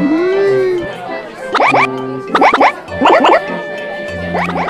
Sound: High Pitched Koopa Language

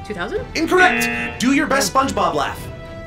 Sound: buzzer blares

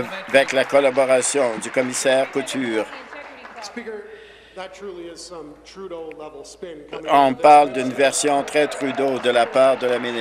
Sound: some Applause

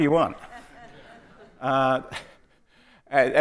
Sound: audience laughing

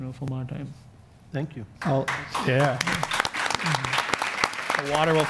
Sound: audience applauds

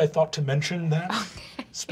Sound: laughter

